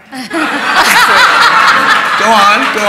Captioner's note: laughter